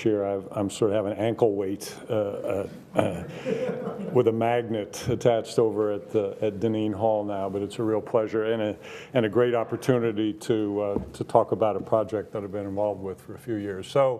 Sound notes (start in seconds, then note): 2.9 students laughing